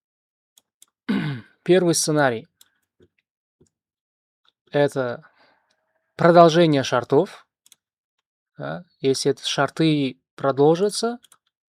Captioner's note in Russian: откашливается